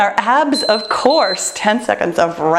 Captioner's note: timer beeping